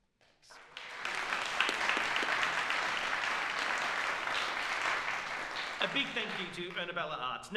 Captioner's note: applause